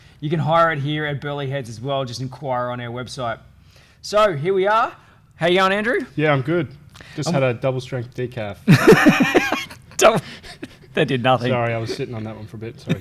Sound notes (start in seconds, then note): 8.7 laughing